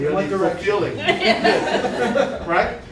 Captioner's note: laughter